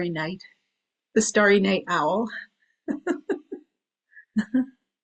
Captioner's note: chuckles